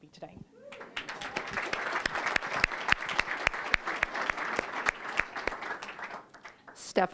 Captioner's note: applause